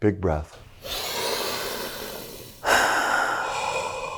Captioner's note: inhaling; exhaling